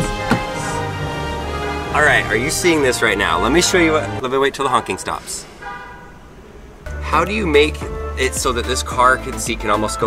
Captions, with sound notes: - That's nice. - Alright, are you seeing this right now? Let me show you what- (honking) Let me wait 'til the honking stops. How do you make it so that this car seat